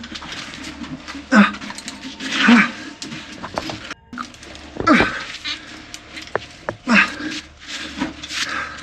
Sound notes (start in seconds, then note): 0.8 groaning